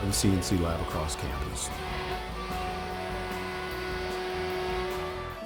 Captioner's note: CNC buzzing